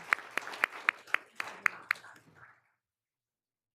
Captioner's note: all applauding